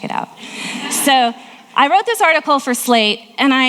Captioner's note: audience laughing